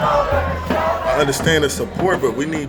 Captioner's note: protesters demonstrating